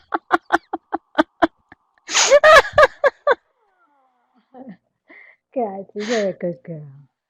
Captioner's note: laugh